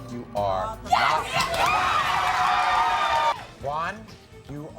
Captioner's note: crowd cheering